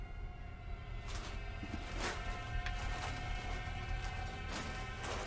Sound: suit rustling

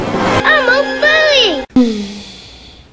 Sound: sound clip from "Rock-a-Doodle"

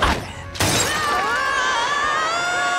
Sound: screaming

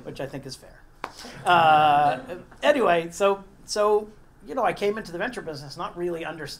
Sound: laugh

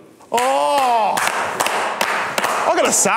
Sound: clapping

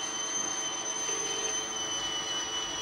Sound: dial tone ringing; kettle whistling stops

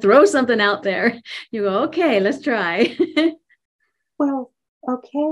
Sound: laughs

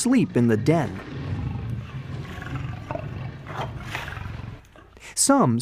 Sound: lions snarling

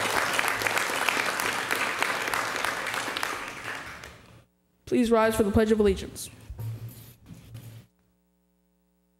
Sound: applause

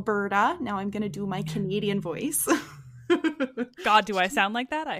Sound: laughs

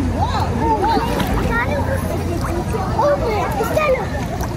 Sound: excited voices

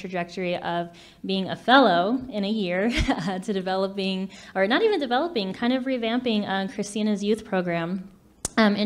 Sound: laughs

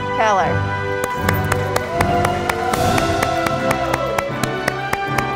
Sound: audience applauding

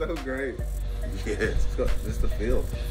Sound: laugh

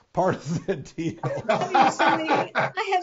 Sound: laughing

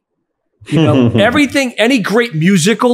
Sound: chuckles

